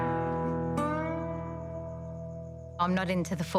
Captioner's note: gentle music; insects chirping